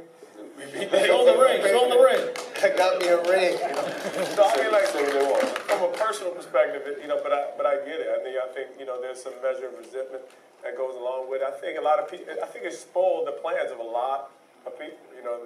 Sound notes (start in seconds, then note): 2.3 laughing applauding